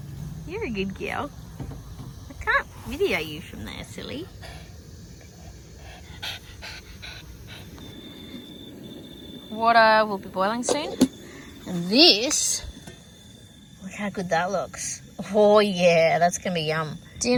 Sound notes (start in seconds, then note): 5.1 Ollie pants happily; 8.1 crickets in the background